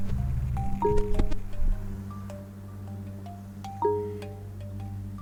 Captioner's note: dramatic music; phone beeping